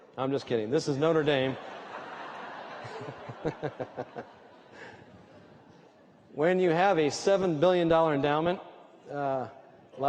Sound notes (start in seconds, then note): 1.4 laughter